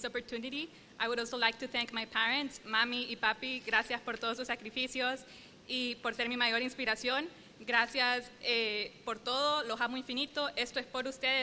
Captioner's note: speaking spanish